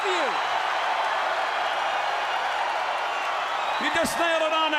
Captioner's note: crowd cheering